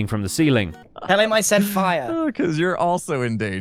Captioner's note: laughs